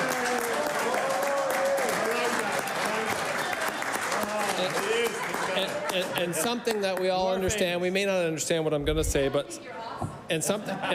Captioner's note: applause